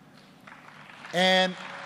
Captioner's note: applause